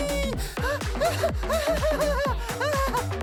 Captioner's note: hysterical laughter